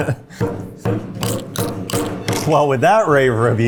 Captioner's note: hammer smashing